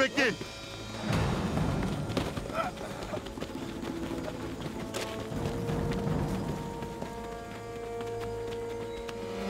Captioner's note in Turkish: Ayak sesleri; Müzik - Gerilim